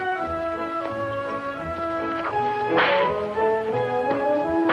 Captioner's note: whip cracks